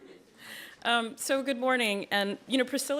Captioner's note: laughter